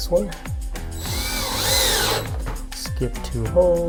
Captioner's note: drill whirs